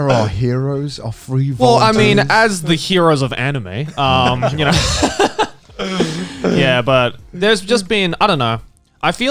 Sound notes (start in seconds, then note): 3.8 all laughing